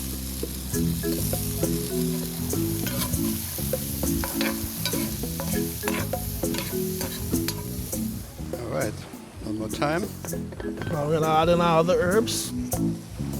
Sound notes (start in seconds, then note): 0.2 pan sizzling; 0.2 upbeat music; 2.4 spoon scraping